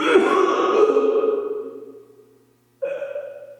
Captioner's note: Jacob retching